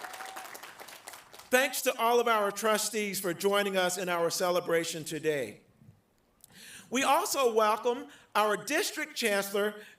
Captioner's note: applause